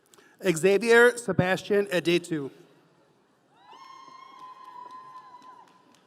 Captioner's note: audience cheering